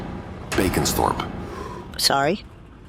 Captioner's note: dramatic impact sound